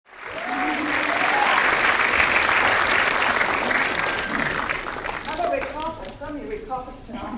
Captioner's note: clapping